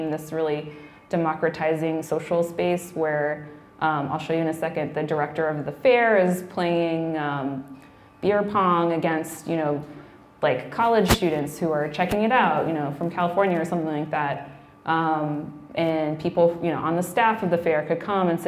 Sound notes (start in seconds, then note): none